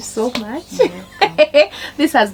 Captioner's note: laughter